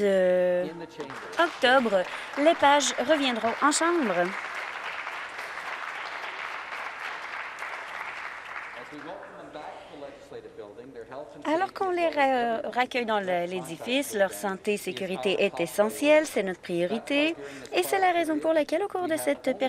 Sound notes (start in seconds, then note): 5.6 applause